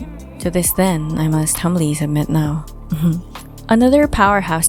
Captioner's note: laughs